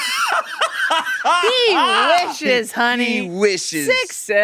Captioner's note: laughing